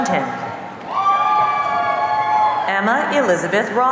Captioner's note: audience cheering